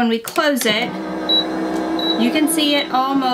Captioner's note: press rumbling